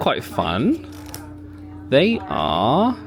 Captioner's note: tag snaps